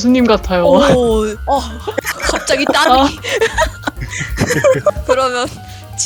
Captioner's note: laugh